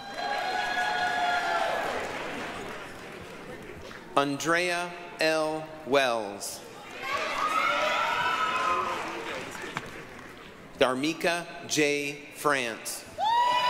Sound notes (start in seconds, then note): 0.0 applause, cheering; 6.9 applause, cheering